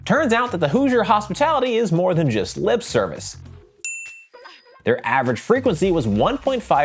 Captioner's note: ding